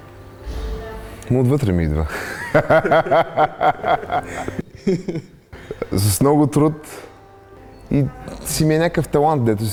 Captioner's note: laughs